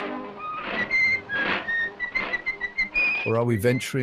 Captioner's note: cheerful whistling